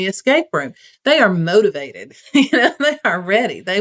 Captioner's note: laugh